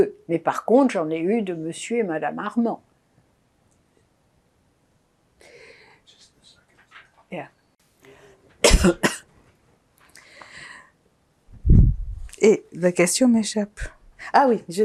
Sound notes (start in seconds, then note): 8.6 coughing